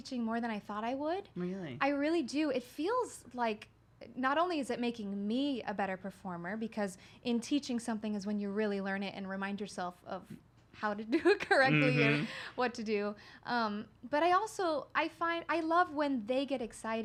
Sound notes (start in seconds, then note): 11.6 laughs